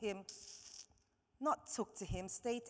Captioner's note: steuping